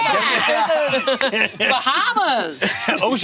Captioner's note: all laughing